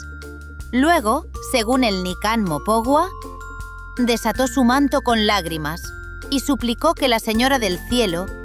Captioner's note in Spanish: Voz en off